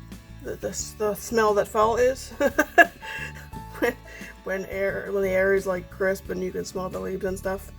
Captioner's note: laughs